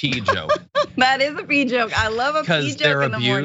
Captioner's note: laugh